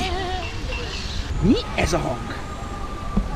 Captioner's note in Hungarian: Szirénához hasonló hang